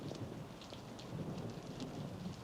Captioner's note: thunder rumbling